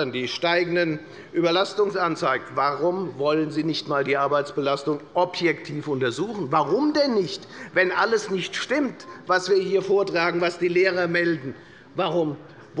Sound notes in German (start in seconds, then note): none